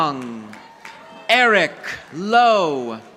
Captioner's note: audience applauding